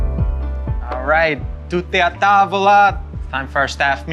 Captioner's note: speaks in Italian